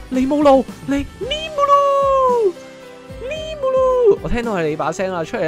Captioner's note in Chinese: 智障叫聲